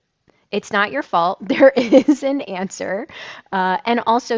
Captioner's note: laughs